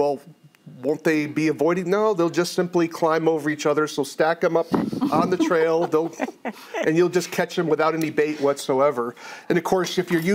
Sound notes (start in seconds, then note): 4.8 others laugh